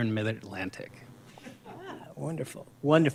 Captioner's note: laughter